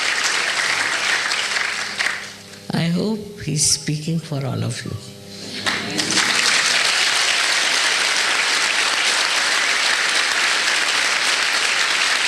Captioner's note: more applause